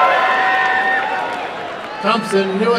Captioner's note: applause and cheering